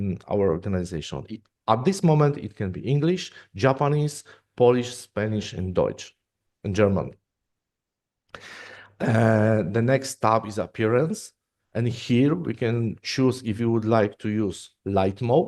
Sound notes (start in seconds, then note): 5.4 German